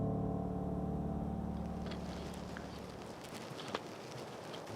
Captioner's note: wind blowing softly